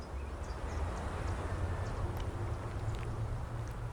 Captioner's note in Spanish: Sonido del viento